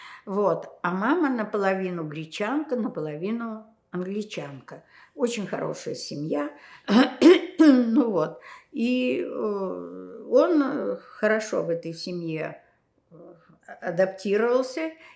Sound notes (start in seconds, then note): 6.7 clears throat